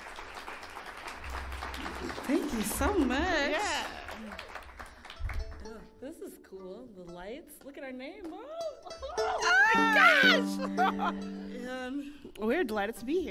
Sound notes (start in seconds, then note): 8.8 laughing